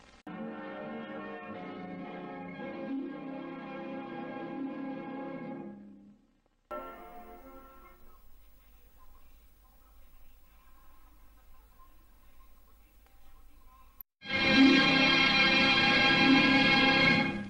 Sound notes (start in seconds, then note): 8.8 analog tape static; 14.2 old-fashioned music continuing